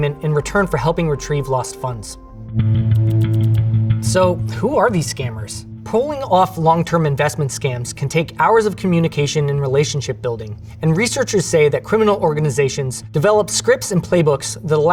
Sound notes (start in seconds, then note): 2.4 pensive music; 2.4 text whirring